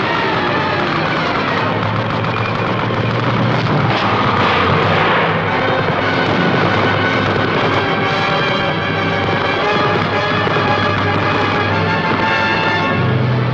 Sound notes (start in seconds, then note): 2.5 explosions; 7.3 suspenseful music